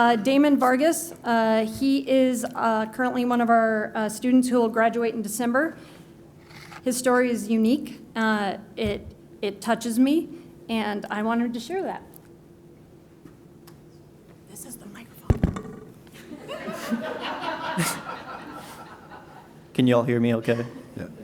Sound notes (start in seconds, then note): 14.5 whispering; 16.2 laughter